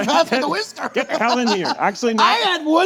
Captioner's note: laughing